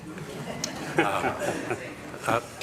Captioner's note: laughter